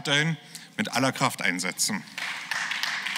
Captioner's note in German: Beifall